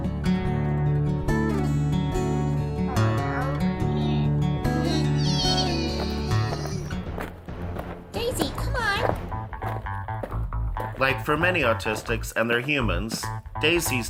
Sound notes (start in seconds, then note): 4.7 grunting